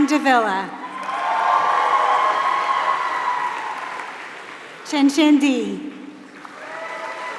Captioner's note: applause